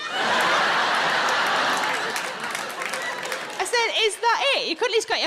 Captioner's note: audience laughing